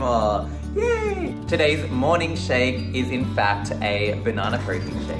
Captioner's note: voiceover